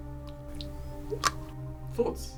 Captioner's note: lid snaps